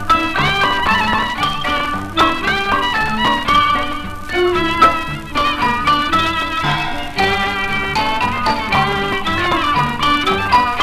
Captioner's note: sampan rowing